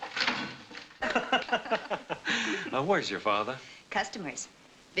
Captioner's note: laughs